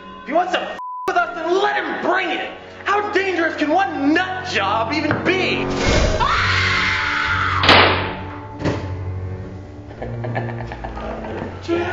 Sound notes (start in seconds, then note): 6.1 screaming; 7.7 gun firing; 9.8 laughing